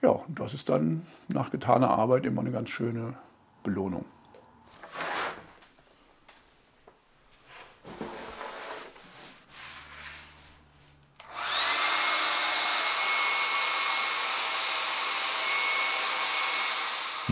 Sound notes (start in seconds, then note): 11.2 föhn noises